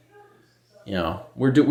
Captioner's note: still talking in background